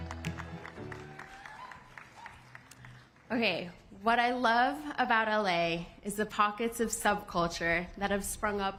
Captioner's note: cheers and applause